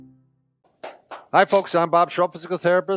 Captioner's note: claps